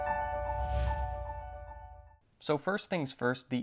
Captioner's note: text whooshing